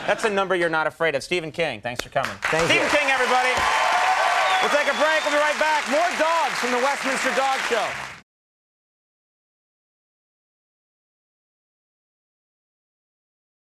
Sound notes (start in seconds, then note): 4.2 audience applauding